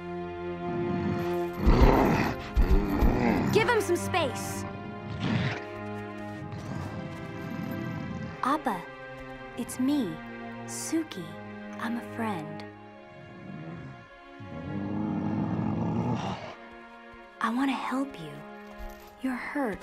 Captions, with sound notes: [groaning, growling] Give him some space. Appa, it's me, Suki. I'm a friend. [Appa groaning] I want to help you. You're hurt.